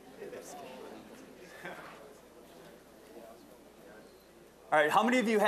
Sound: general chatter

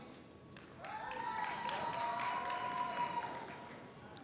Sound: audience cheers

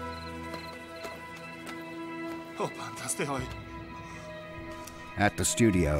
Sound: crickets chirping; man speaking in Greek

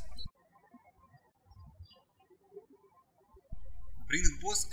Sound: birds chirping

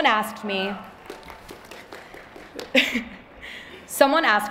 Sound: applause

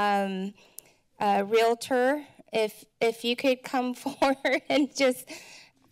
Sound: laughter

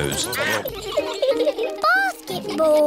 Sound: all giggling; duck quacking

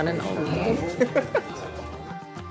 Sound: laughter

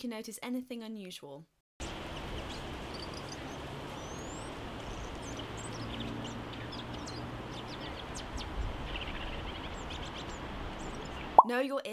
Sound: robin singing

